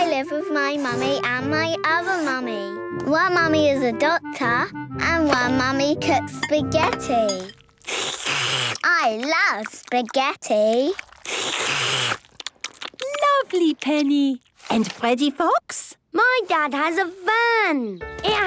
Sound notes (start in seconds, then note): 7.9 slurping; 11.4 all slurping